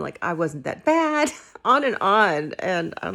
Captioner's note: laughing